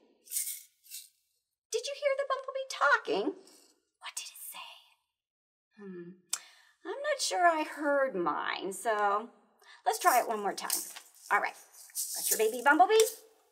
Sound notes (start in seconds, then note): 3.5 whispers